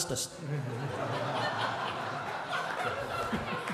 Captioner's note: crowd laughing